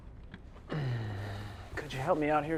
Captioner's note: uncomfortable sigh